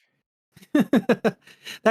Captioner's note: laughs